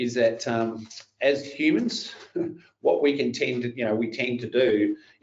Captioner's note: chuckles